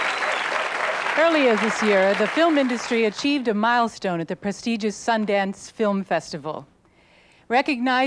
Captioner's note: applause fades